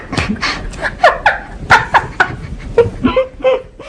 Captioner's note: laughter